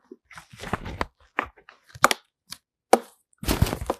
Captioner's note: pauses 8 seconds